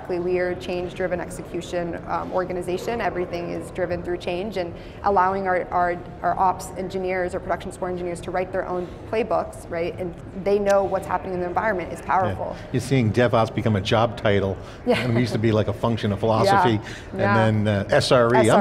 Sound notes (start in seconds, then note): 14.9 laughs